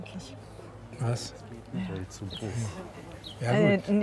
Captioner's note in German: Leise Gesprächsfetzen